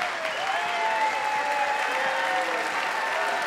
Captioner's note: clapping and cheering